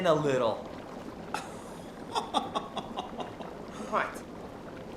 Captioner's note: Nick laughing